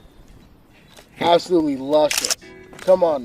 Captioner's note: camera clicking